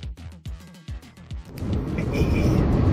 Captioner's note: laughs